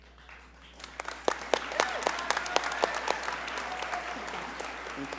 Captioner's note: audience cheer and applaud